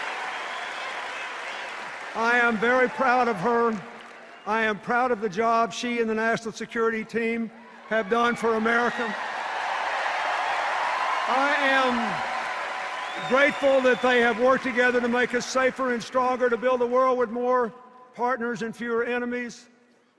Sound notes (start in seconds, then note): 3.2 sustained applause and cheers; 7.6 cheers and applause